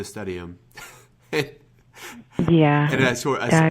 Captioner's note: chuckles